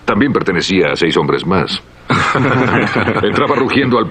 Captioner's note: all chuckling